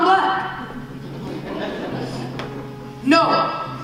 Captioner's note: laughing